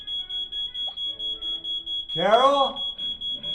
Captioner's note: alarm system ringing